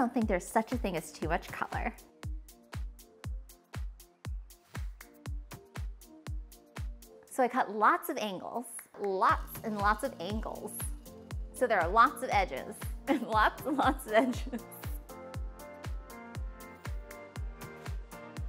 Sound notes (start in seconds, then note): 13.1 laughter